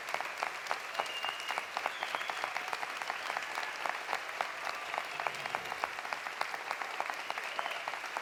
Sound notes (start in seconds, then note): 2.5 applause continues; 2.5 cheering continues